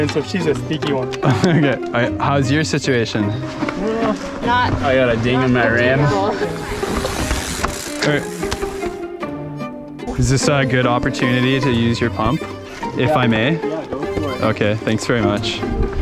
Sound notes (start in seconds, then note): 1.2 laughs; 6.4 gears whizzing